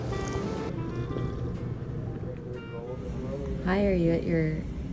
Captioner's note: slurping